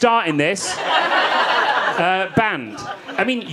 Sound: audience laughing

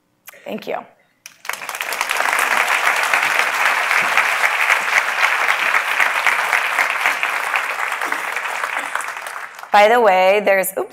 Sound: applause

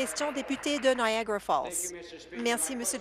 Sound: applause

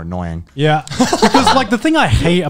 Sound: laughing

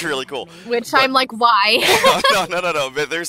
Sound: hearty laughter

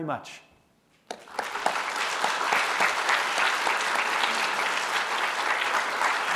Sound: applause

